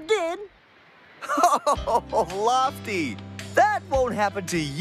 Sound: chuckles

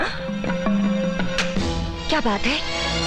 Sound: receiver hang up

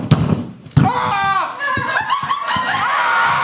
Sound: fireworks exploding; laughter, cheers, & applause

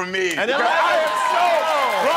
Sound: cheering

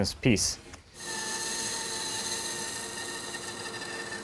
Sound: saw buzzing

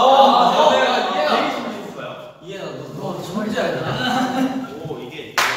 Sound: sarcastic tone

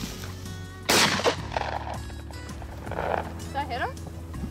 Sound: gun fires

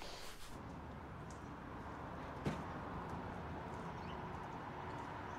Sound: traffic murmuring

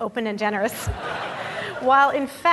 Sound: audience laughing

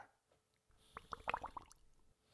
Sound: bubbles

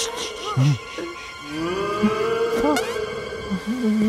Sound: moaning continues; shushes, gasps

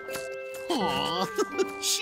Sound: laughing

